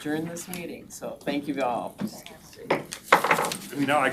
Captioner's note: gavel taps